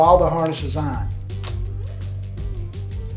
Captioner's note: buckle clicks; upbeat music